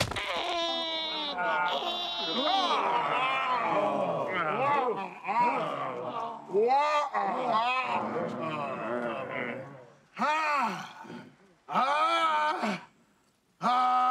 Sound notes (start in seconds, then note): 0.0 straining; 0.1 imitating baby crying; 2.6 all grunting disapprovingly; 9.1 all grumbling